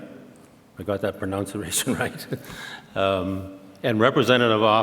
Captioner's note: laughs